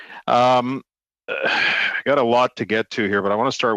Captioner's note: laughter